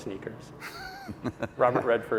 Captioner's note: laughing